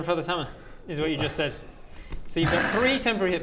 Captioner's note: self-sabotaging sigh